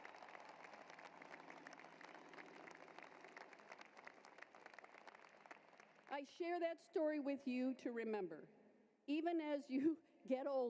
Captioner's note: applause